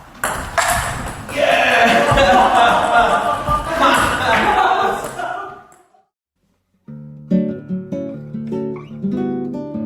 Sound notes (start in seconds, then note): 3.5 both laughing